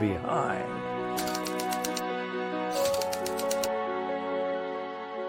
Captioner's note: typewriter clicking